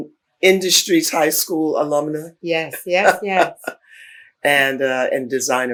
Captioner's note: laughs